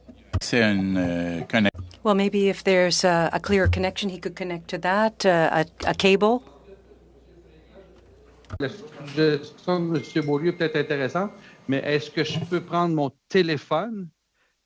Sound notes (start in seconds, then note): 1.0 speaking French